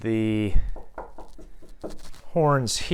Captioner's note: knocking